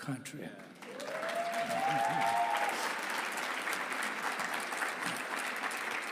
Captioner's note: audience cheering and applauding